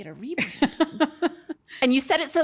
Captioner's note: laughs